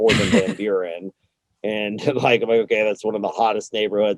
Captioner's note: laughs